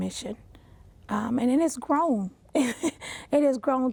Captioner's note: laughs